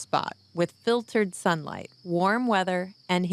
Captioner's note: none